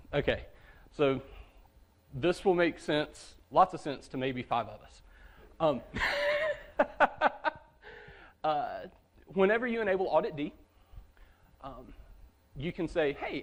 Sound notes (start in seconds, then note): 5.9 laughter